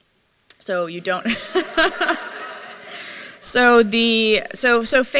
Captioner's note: laughter